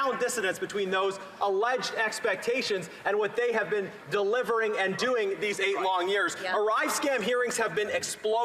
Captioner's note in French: voix de l'interprète